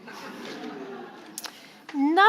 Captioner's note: audience laughing